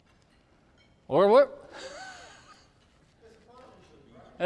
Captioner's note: laughs